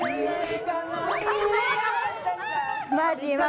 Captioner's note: laughing